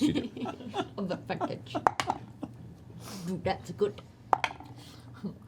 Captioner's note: Grog voice